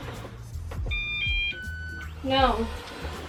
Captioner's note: beep